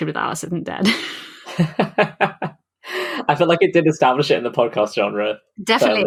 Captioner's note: laughs